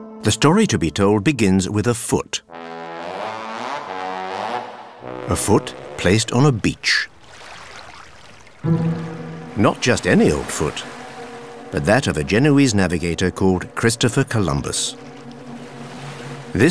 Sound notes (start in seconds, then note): 5.0 quirky music; 9.5 water lapping